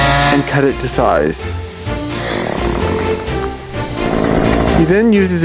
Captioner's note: chainsaw revving